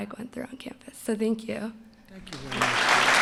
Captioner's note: applause